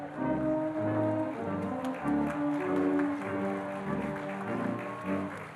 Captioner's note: audience applauding